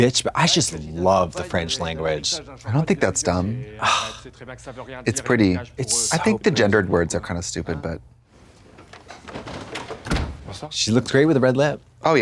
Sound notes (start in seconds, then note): none